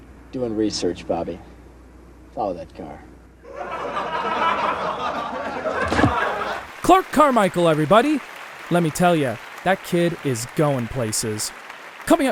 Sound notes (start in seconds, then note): 3.4 audience laugh track